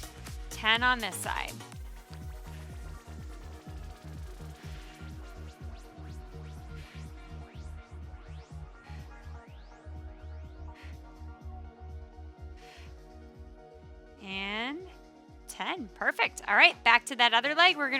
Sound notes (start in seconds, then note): 2.5 upbeat lively music; 6.6 exhaling deeply